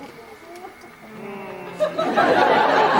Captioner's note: Claudio, Don Pedro, and Leonato sigh